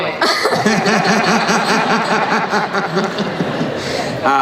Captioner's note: laughing